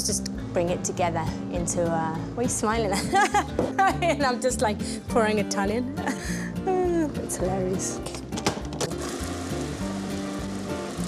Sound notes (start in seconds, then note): 3.4 laughs